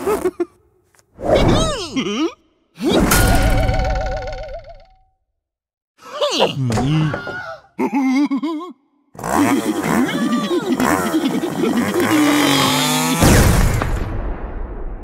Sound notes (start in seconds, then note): 0.0 silly Noises; 9.1 silly Noises; 9.4 laughter